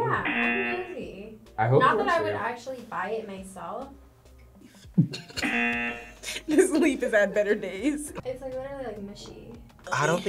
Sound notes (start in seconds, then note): 0.1 buzzer; 4.7 laughs; 5.4 buzzer